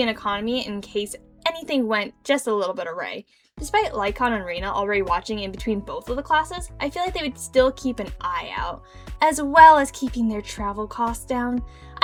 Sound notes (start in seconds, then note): none